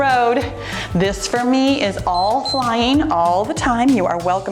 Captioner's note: timer beeps